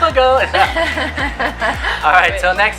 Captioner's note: laughing